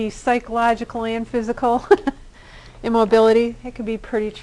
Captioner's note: laughter